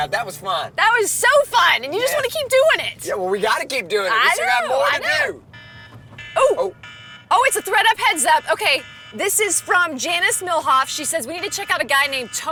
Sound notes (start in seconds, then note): 6.8 alarm buzzing